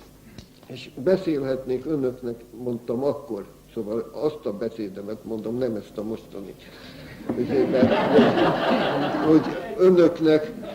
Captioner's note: laughter